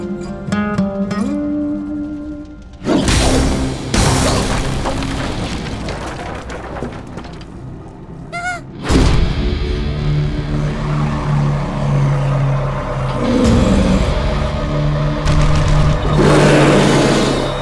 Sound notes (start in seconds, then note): 0.0 agitato Spanish guitar music, slowing; 8.2 fearful squeak; 16.0 roars